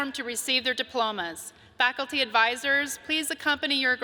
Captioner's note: none